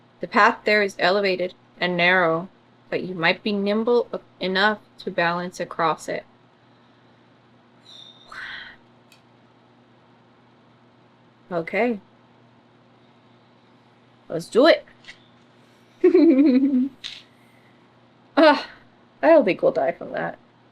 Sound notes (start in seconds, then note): 16.0 laughs